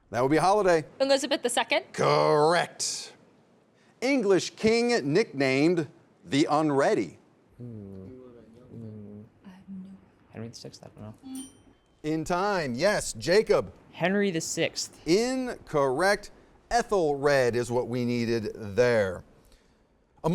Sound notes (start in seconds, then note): 8.7 students murmuring; 11.3 buzzer sounding